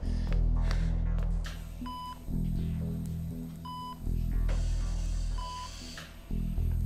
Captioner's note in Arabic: صفير